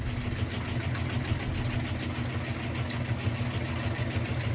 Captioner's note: air handler noise